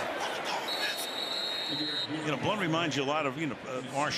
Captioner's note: whistle